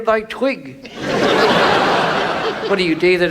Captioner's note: audience laughs